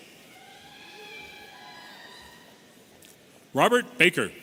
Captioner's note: audience cheering